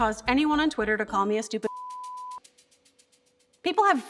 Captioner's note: beep